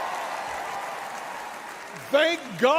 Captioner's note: crowd cheers